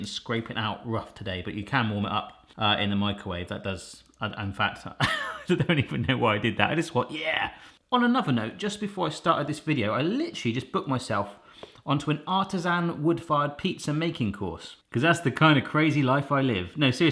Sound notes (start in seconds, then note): 5.0 laughs